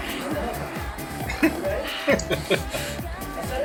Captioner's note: chuckling